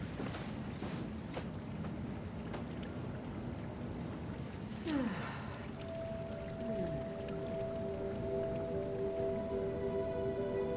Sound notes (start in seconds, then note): 4.8 Maddie sighs; 8.0 joyful music